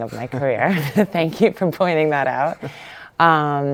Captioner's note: laughs